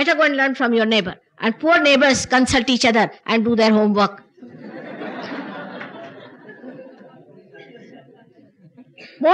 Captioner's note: laughter